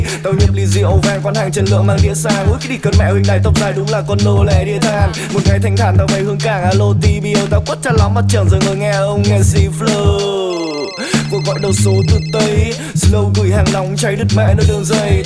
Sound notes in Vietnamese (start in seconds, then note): 10.2 Chuông điện thoại